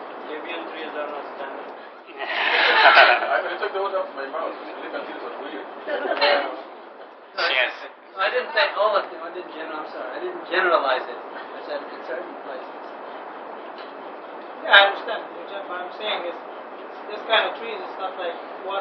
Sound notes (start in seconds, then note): 2.2 laughter